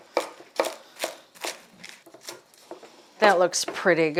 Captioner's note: knife tapping